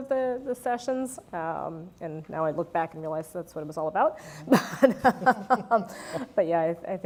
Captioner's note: laugh